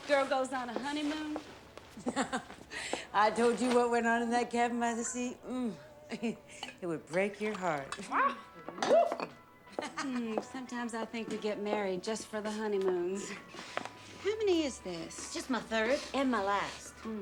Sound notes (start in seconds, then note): 2.0 laughs; 5.7 chuckles; 8.8 exclaims, whoops; 9.7 edie laughs